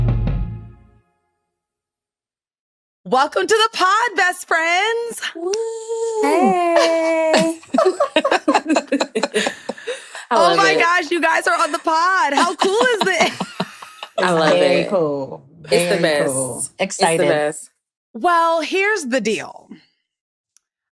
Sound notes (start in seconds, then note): 6.2 giggling